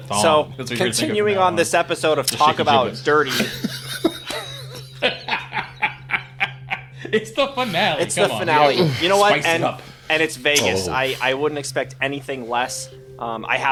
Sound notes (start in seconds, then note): 3.2 everyone laughs